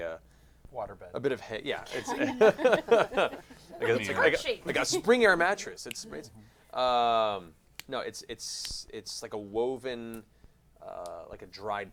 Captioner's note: laughs